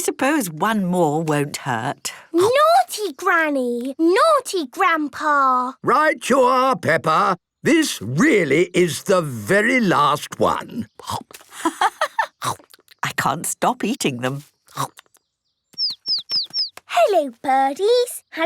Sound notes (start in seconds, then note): 11.0 laughing; 15.9 chirping